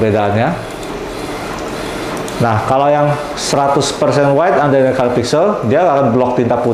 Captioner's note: printer machine sound